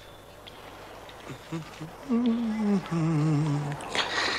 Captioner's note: humming